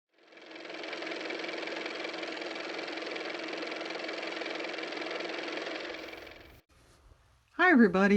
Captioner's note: car motor